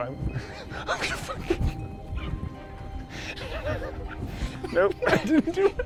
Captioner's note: laughs nervously